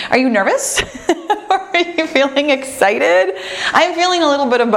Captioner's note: laughs